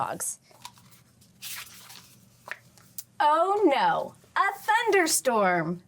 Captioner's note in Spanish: crujido de página